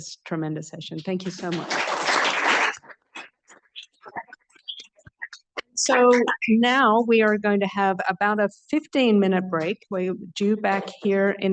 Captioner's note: applause